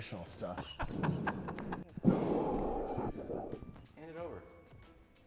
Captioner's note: laughing